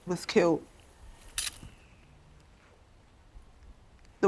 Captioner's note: shutter clicks